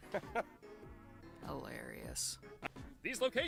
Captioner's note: Kinger chuckles; sarcastically